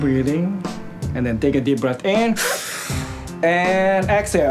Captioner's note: inhaling